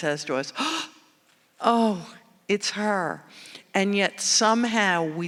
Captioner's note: gasps